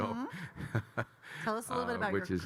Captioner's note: Kyle laughing